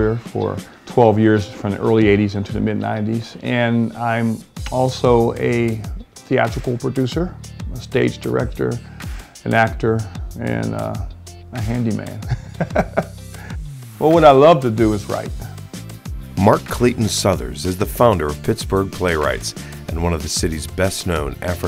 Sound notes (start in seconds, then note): 12.2 chuckles